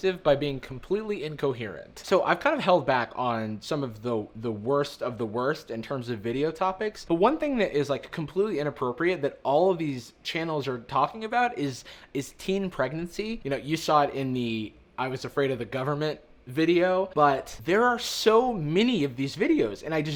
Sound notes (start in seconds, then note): none